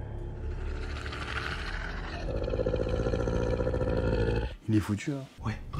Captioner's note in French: bruits de monstres